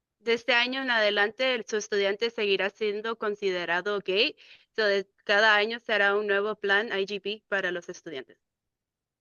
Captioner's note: speaking in Spanish